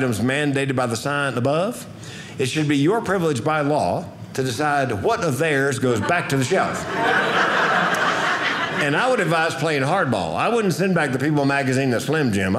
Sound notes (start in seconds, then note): 7.7 audience laughing